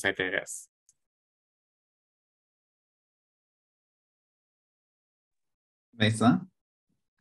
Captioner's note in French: silence